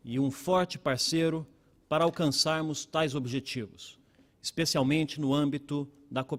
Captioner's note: speaking Portugese